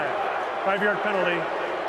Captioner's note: booing